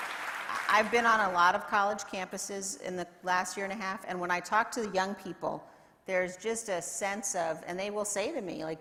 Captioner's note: applause